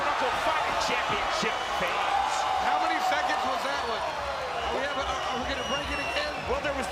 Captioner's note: cheer